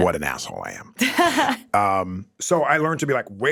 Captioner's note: laughs